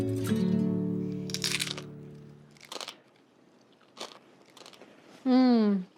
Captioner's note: crunching